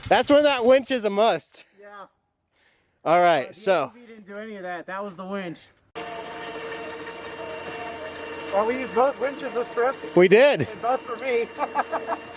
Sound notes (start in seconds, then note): 5.9 winch whining loudly; 11.5 laughs